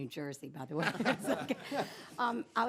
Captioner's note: laughter